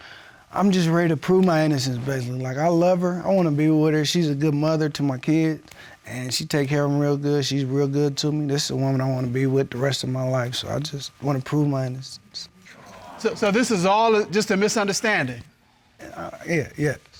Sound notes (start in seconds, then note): 12.7 audience awes